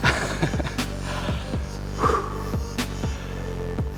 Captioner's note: laughs